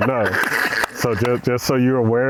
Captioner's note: laughing and clapping